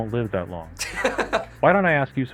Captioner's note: laughs